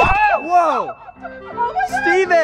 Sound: yells

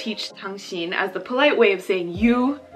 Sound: speaking Korean

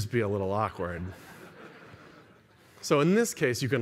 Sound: laughter

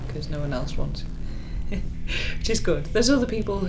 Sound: laughs

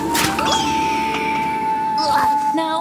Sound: bird screeches

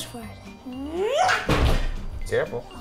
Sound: yells

